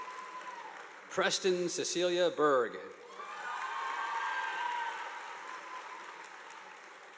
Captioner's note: audience applauding